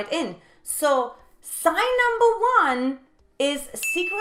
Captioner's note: bell dings